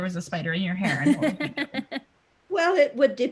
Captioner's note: Judy laughing